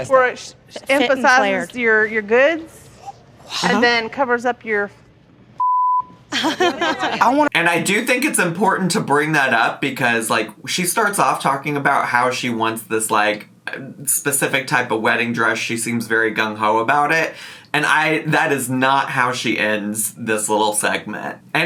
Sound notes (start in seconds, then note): 5.6 beep; 6.3 dress shop employee laughing